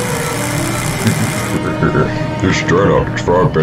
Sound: laughs

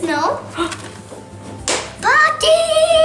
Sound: woman gasp

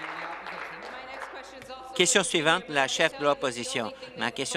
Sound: applause

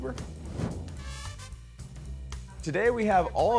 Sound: whoosh

